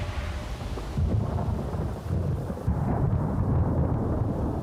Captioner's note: thunder rumbles